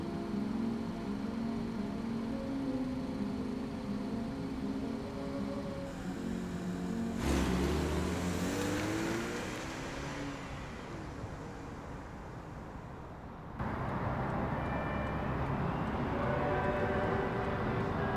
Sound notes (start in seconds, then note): 0.3 music muffled outside car; 6.0 engine revs as she speeds away